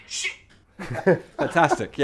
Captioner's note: laughter